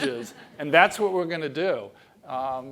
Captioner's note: laugh